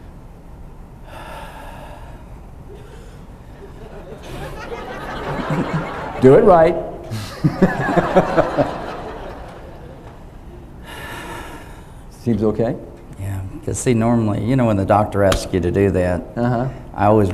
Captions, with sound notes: (audience laughs) Do it right. (all laugh) Seems okay. - Yeah, 'cause see normally, you know, when the doctor asked you to do that